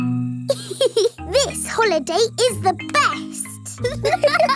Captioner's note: giggles; laughing